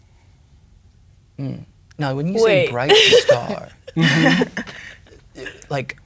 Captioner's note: laughing